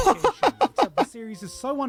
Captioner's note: laughing